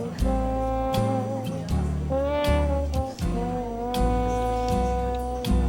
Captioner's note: bluesy trumpet music; diner sounds